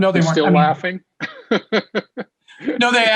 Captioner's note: laughs